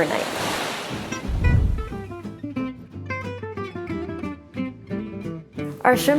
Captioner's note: waves murmuring; air whooshing; lively jazz music